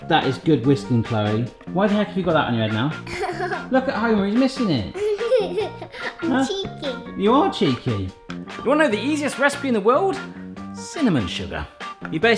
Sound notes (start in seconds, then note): 4.9 laughs